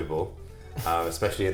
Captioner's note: laughs